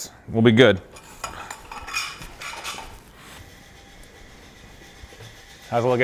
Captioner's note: metal rattles softly